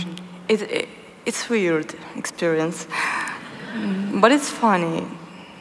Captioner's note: laughs